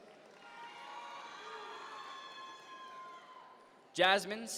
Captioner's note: audience members cheer